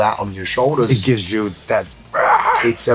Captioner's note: growling